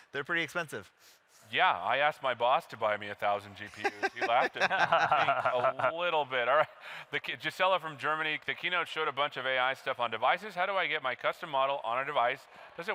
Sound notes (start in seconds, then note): 6.5 laughing